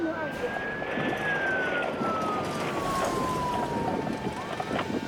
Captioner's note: siren blaring